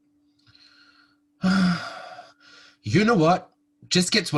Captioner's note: HE sighs